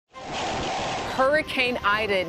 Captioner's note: wind swooshing